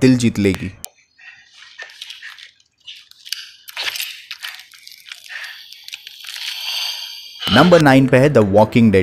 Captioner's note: Gasping